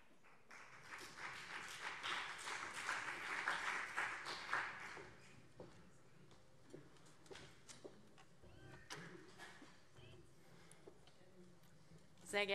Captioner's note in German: Beifall SPD und vereinzelt CDU